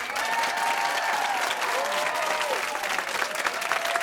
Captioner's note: cheers and applause